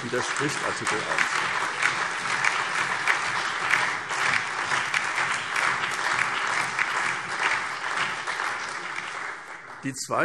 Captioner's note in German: Allgemeiner lebhafter Beifall